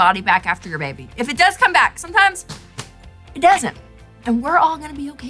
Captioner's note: slaps legs